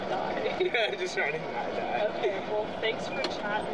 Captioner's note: laughs